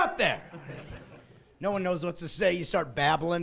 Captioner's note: laughing